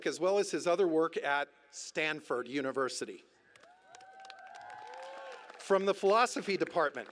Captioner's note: cheers